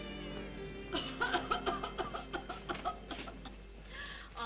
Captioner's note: woman coughs